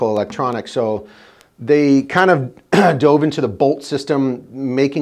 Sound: clearing throat

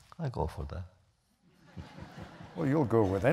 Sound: laughter

